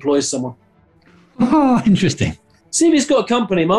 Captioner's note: laughs